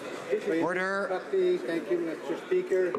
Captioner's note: speaking French